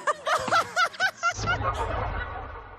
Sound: ha ha ha ha ha ha ha

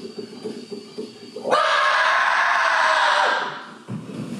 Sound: screams

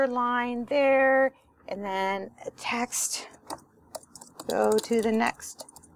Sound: typing

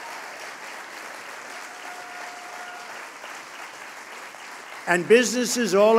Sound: applause

